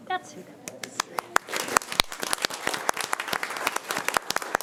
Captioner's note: audience applauding